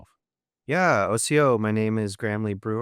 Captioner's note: speaking in foreign language